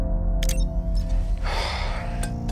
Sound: electronic chirps; sighs

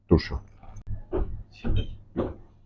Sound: footsteps

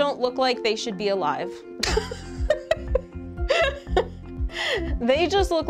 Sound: laughs

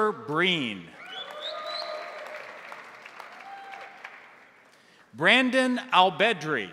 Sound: crowd cheering; crowd applauding

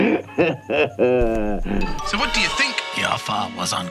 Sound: Kiwi accent

